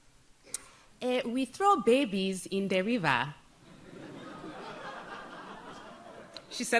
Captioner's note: audience softly laughs